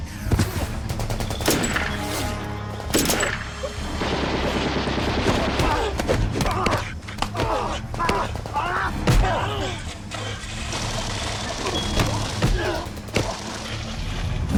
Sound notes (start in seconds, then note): 5.2 punching, grunting sounds